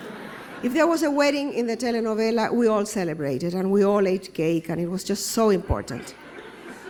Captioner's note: laughter